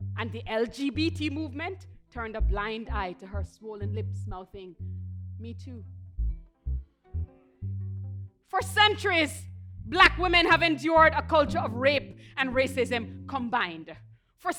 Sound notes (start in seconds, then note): none